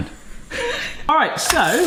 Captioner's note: both chuckle